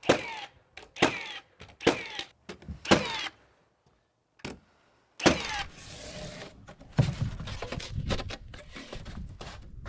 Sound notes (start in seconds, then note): 0.7 nail gun clicking; 6.0 foam scraping